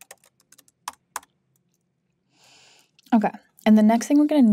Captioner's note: keyboard clacking continues